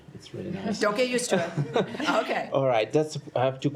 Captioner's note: laughter